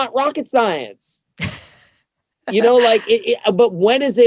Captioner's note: laughs